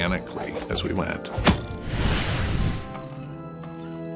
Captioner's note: metal slashing; organ music